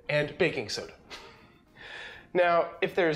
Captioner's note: laughs